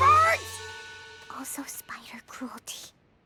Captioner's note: whispering